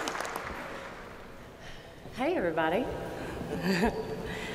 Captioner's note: applause